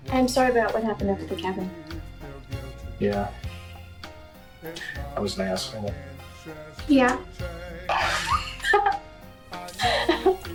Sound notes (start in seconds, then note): 4.0 gentle music; 8.0 both laughing